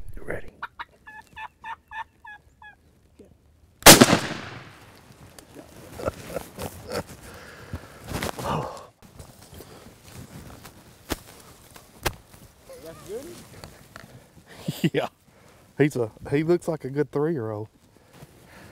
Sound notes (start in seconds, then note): 3.8 gunshot